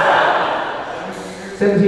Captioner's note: audience laughing